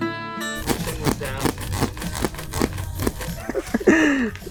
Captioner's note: board creeks